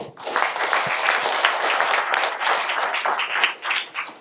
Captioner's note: audience clapping